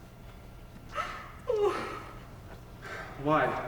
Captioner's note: cries